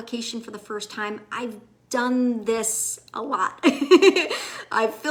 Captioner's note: laughs